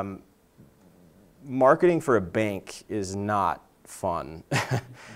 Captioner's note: laughs